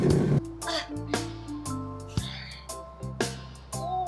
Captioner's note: slow reggae music continues; Fern grunts